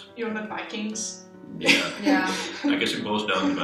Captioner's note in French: rires